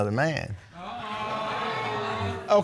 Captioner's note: audience exclaim